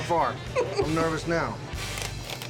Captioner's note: laughter